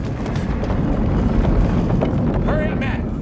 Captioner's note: rumbling